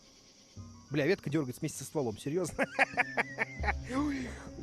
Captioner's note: laughs